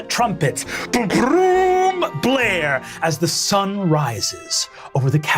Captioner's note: imitates trumpet music